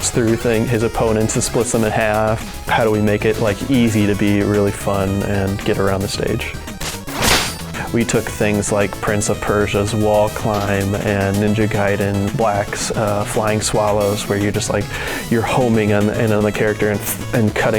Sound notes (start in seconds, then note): 6.8 slash sound